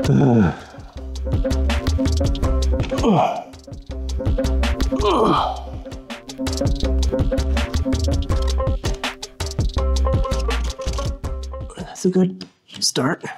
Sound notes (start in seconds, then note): 2.9 grunting